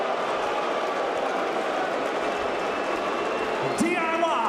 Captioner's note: crowd chatter